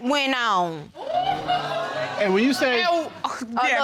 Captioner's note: audience groaning